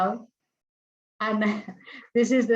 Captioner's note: chuckles